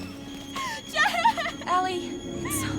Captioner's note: crying